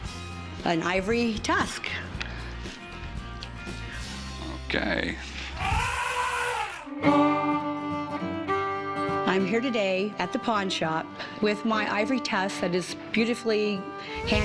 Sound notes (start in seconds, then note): 5.5 elephant trumpet